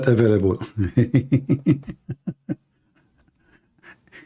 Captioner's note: Ketawa